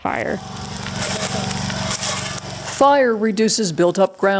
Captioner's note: fire sizzling